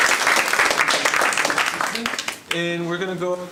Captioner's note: applause